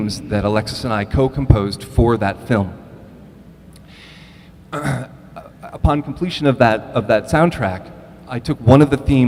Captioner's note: throat clearing